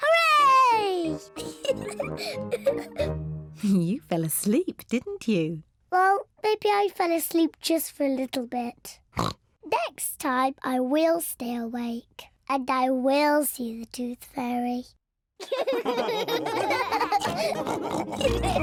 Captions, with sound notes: Hooray! (LAUGHS) You fell asleep, didn't you? Well, maybe I fell asleep just for a little bit. (OINKS) Next time I will stay awake, and I will see the Tooth Fairy. (ALL LAUGHING)